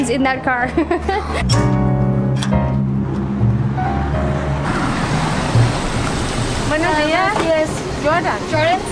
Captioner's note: laughs